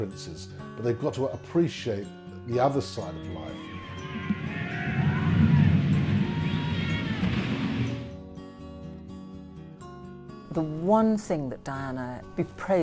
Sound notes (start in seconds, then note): 3.4 screaming; 10.5 voiceover